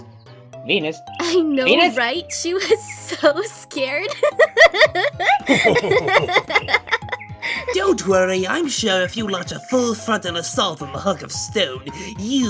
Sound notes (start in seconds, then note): 4.0 both laughing